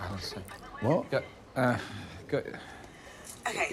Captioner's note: sighing